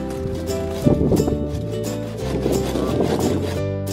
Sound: scraping

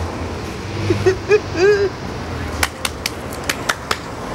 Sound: laughing

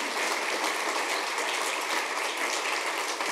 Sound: applause

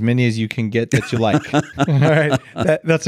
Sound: laughing

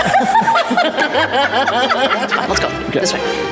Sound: laughter

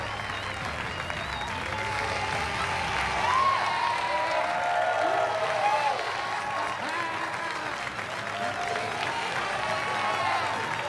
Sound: cheers and applause

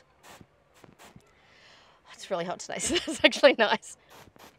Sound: intake of breath; laughing

